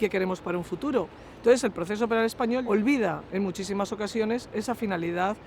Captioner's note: Spanish